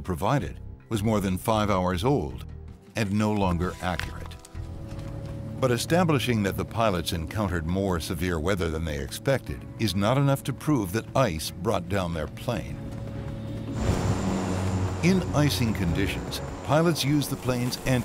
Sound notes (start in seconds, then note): 3.4 papers rustle; 13.3 engine whirring